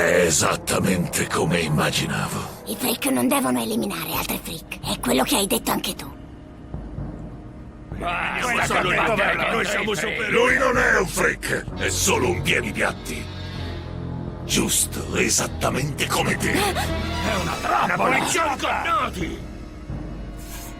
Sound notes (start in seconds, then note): 8.0 freaks muttering; 16.5 freaks muttering; 16.5 gasping